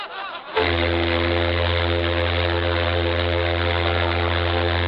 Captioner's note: men laughing; ship horn blaring